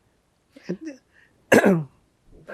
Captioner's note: clears throat